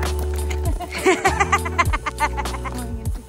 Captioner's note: both laughing